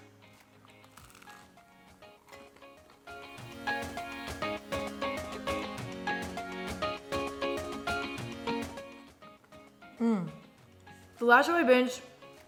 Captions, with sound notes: (food crunching) (upbeat music) Mm, the last show I binged